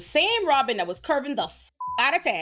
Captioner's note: beep